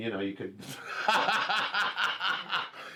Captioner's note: laughs